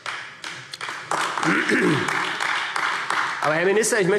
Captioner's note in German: Beifall AfD